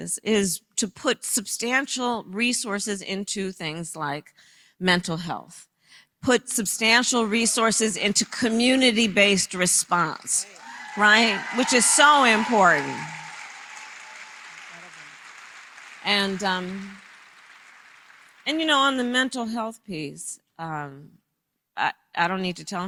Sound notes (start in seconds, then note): 10.0 applause